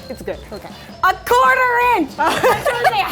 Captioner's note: laughing